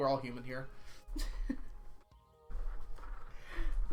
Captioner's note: laughs